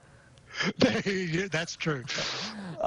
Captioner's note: laughing